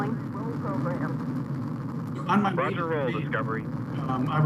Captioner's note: people chattering